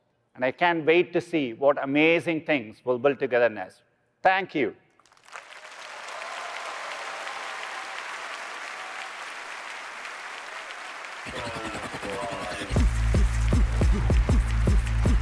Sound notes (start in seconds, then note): 5.0 applause; 11.3 intense music